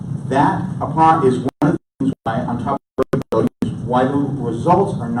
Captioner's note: audio cutting out